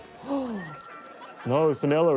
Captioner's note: gasps